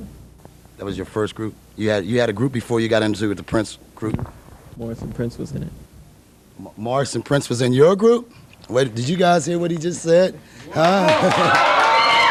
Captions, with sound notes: that was your first group yeah you had a group before you got in to the prince group, Morris and Prince were in it. Morris and Prince was in your group? wait did you guys hear what he just said (appaluse)